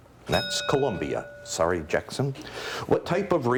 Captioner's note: bell ringing